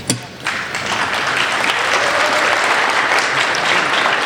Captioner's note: applauding